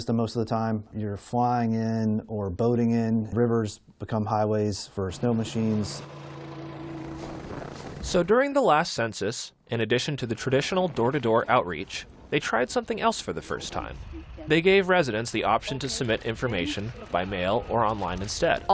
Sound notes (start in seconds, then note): 8.5 voice-over